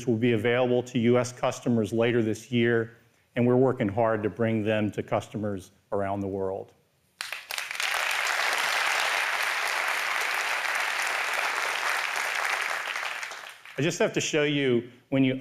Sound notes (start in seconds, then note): 7.2 applause